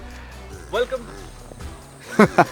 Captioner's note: cow moos